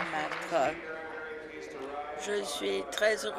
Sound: applause

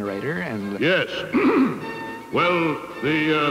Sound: clears throat

